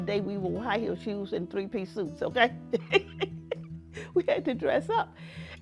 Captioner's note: laughs